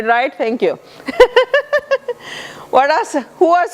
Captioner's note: laughter